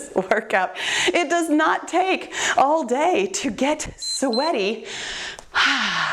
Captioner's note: timer beeps